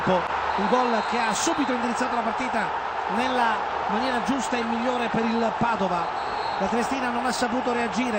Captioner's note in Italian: Applauso